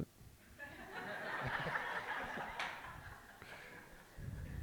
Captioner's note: group laughing